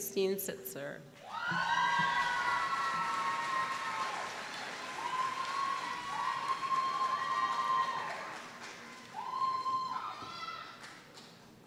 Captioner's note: applause